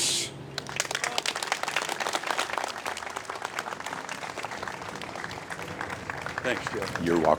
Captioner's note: applause